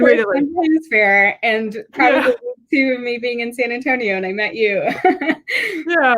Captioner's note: laughs